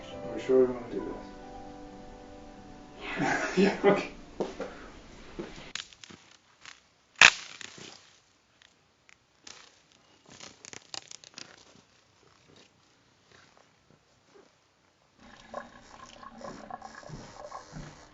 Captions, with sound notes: - Are you sure you want to do this? - Yeah. (laughing) (sticks snapping)